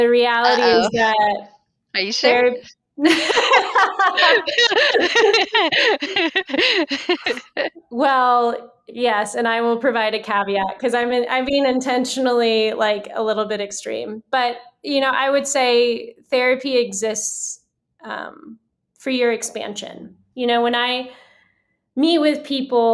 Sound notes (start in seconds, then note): 5.3 laughter